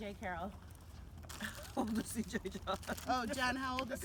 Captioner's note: laughing